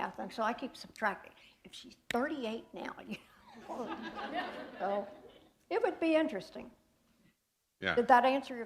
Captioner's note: laughter